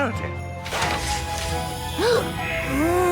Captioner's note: gasps